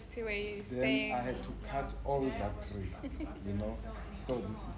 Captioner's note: laughs